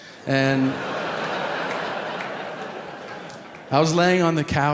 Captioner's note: audience laughing